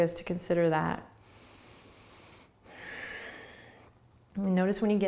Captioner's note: breathing